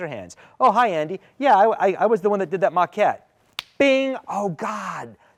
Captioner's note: snaps